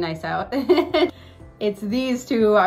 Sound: chuckles

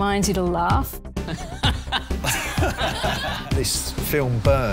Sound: laughter

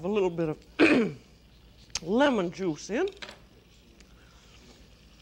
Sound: clears throat

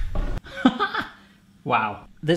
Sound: chuckling

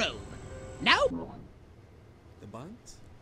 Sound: game music silences

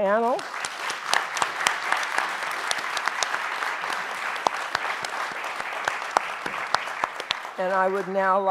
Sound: applause

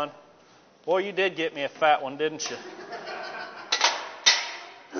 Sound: students laughing

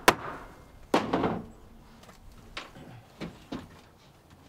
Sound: metal bangs softly

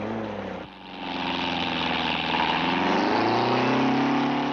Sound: engine rumbling

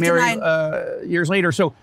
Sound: speaking in foreign language

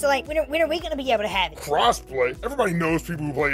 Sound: voice tone change

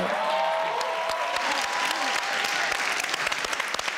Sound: audience clapping

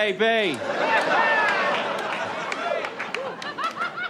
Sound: audience laughs

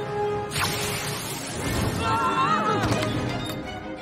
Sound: all screaming

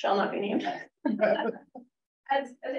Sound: laughter

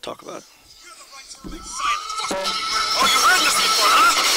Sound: voiceover

